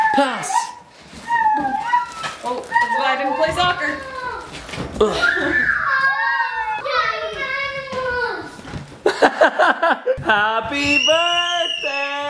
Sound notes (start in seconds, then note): 4.9 kids making noise; 9.0 dad laughs